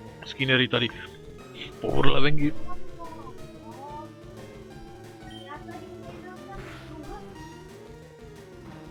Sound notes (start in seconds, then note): 1.5 ape sounds